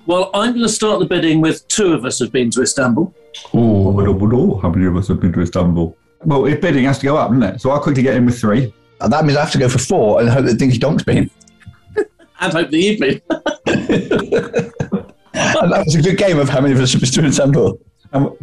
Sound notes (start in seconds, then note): 3.6 low voice; 13.1 laughter